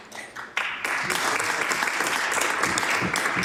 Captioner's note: some Applause